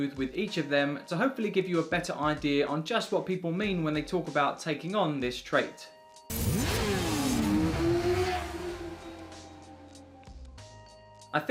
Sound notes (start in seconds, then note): 6.3 bike engine roaring; 7.8 gentle upbeat music